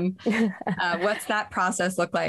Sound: chuckles

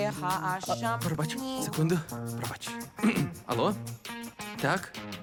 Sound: boy continues chanting; clears throat

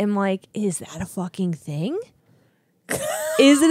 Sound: laughs

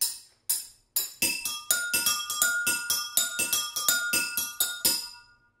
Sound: ringing

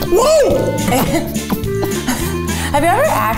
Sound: laughing

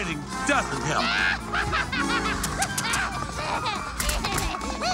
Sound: Niffty laughs

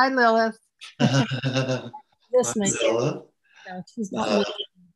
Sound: laughs

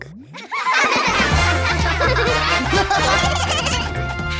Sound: laughing

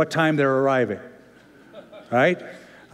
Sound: laughter

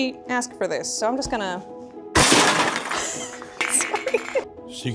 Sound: crashes

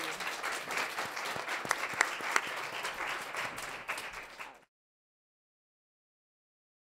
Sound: applause

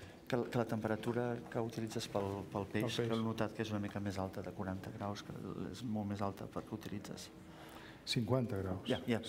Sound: speaking catalan

